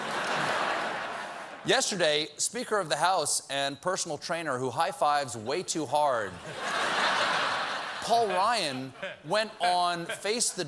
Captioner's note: laughter